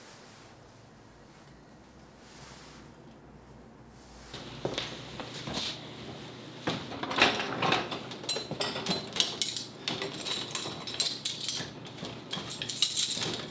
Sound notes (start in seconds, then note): 8.7 dishes clanking